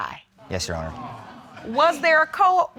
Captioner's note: audience exclaims